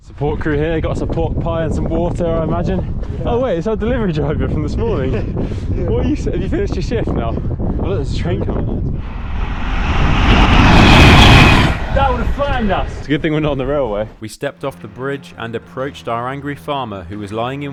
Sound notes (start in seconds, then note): 9.0 train sounds